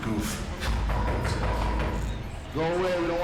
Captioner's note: door knocking